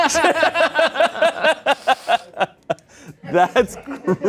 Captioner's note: everyone laughs